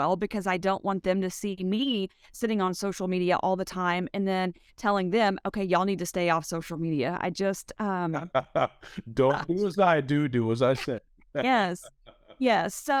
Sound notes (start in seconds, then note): 8.2 laughs